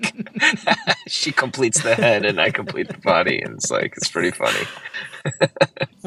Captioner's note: laughter